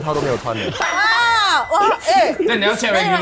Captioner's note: laughs